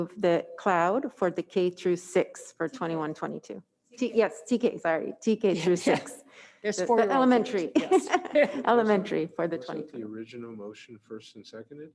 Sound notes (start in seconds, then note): 7.6 laughs